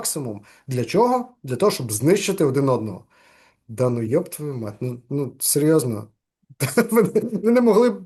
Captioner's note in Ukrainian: сміється